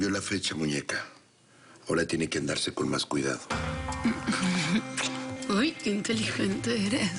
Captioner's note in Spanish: Ella ríe